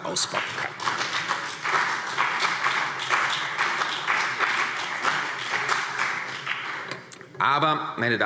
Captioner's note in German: Beifall